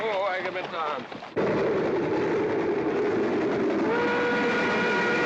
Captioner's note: train rumbling; train whistle blaring